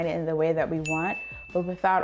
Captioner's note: chime rings